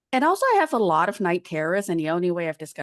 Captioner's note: none